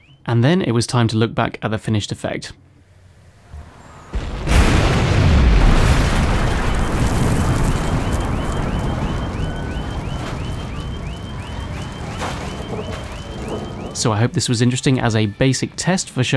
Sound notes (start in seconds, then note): 4.3 explosion; 8.6 fire burning; 10.7 alarm going off